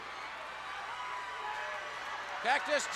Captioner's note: crowd yelling